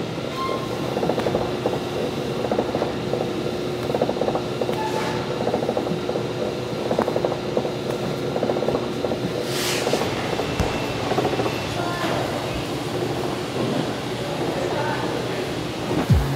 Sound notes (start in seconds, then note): 0.1 background machinery whirring and squeaking; 9.3 tray scraping; 10.8 bagels thudding